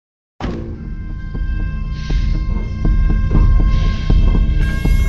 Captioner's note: loud siren wailing